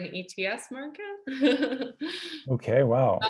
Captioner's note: laughs